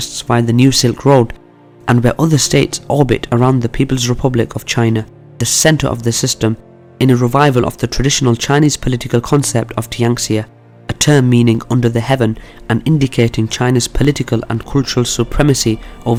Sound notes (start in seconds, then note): 9.9 speaking in foreign language